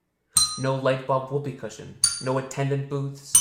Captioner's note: bell dings; bell dings